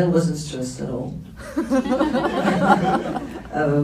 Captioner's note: laughs